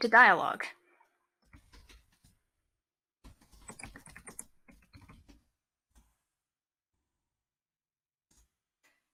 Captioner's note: typing